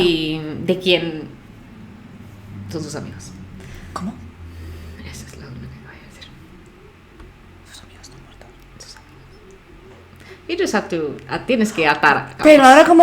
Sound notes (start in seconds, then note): 7.8 whispers